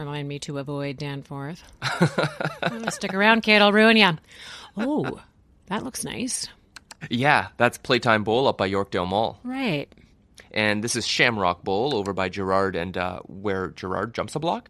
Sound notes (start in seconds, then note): 1.8 Dhruv chuckles; 6.8 click